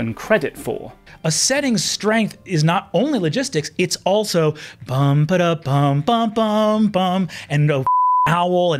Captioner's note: hums theme